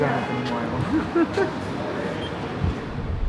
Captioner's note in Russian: смеется